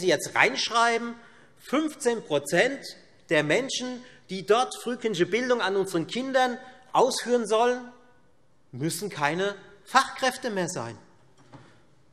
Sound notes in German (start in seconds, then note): none